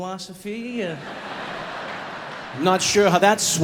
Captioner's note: audience laughing